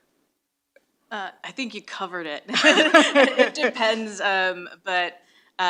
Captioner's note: laughs